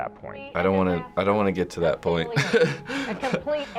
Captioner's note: chuckles